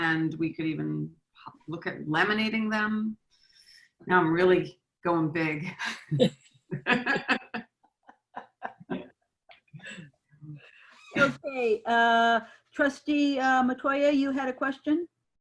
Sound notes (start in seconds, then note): 6.7 laughs